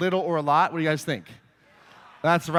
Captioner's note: audience agrees